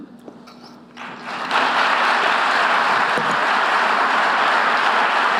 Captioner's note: audience applauding